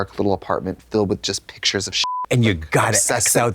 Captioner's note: beep